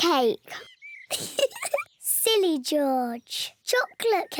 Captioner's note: laughs